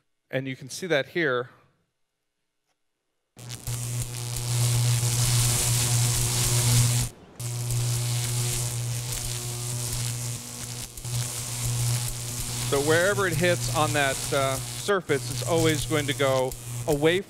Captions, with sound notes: You can see that here. [Electricity buzzing] Wherever it hits on that surface, it is always going to go away from